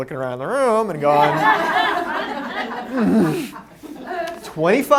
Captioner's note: laughter